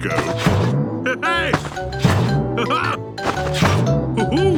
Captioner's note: laughs